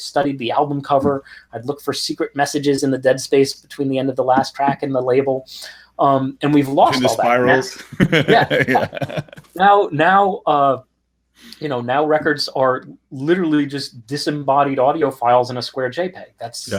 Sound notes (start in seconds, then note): 10.9 laughs